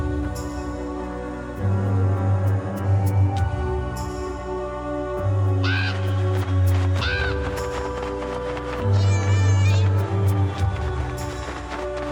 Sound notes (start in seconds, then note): 0.1 eerie and tense orchestral music; 6.7 raven cawing over flapping wings; 9.1 cat screeching